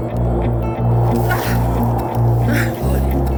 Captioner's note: grunts